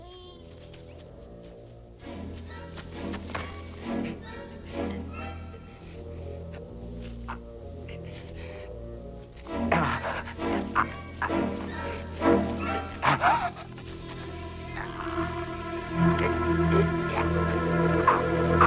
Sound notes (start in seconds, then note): 0.1 Beast whines; 4.3 raider groaning